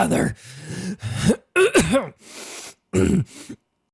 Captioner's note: coughing blood; clears throat